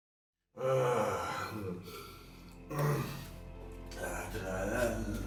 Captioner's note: man sighing loudly; man drunkenly singing